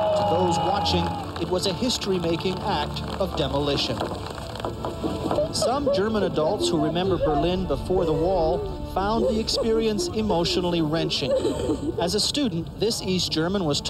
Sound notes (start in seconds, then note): 4.5 rock hammers cement